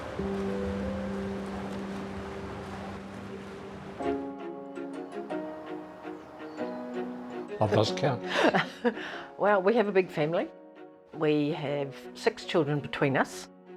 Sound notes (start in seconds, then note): 4.3 bright music; 8.2 chuckles